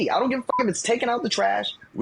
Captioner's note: beep